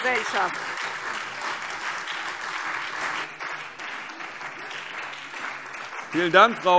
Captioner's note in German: Beifall SPD und DIE LINKE